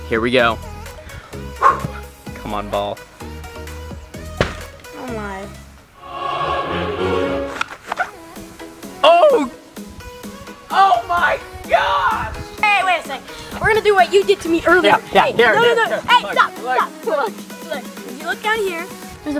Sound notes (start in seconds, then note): 4.4 ball hitting board